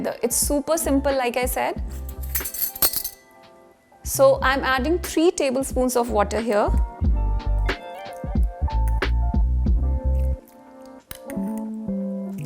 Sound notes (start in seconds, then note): 1.9 cutlery clinking; 8.3 upbeat music